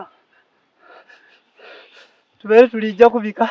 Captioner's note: sobbing